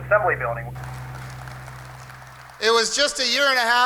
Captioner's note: audience clapping